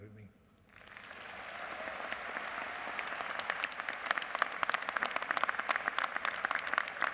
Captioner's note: applause